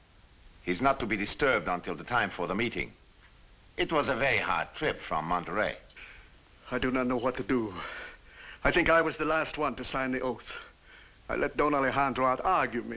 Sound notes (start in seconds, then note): none